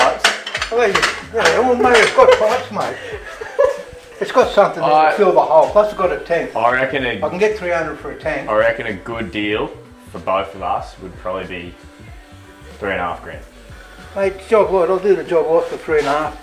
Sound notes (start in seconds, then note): 1.2 laughs